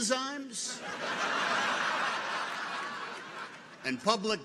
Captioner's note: audience laughs